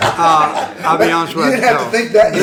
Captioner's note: laughter